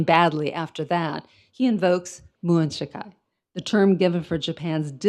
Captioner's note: speaks in foreign language